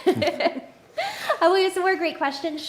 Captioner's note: laughs